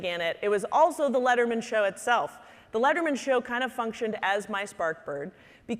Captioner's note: none